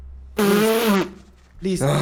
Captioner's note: pfff